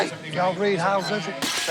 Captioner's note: lid shatters